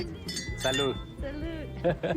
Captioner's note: all chuckle